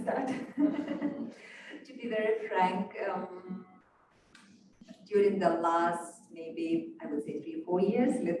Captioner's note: chuckles